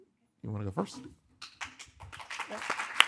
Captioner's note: audience applauding